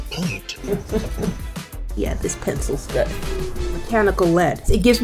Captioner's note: chuckling